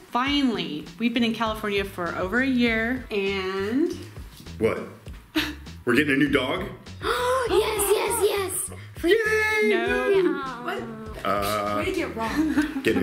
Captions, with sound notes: Finally, we've been in California for over a year and-- - What? We're gettin' a new dog? - (gasps) Yes, yes, yes! - Yay! - No. - Uh. - Way to get it wrong.